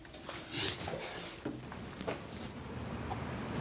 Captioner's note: Tex sniffles